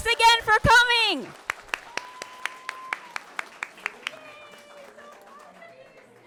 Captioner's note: audience clapping and cheering